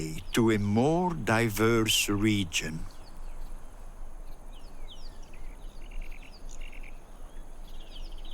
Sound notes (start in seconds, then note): 3.7 birds chirping